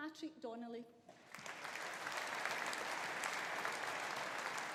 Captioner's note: audience applauding